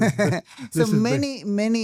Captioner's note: laughing